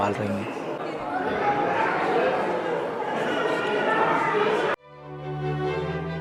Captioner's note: people speaking